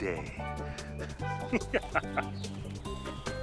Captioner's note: laughter